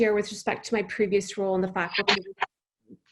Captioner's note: faintly speaking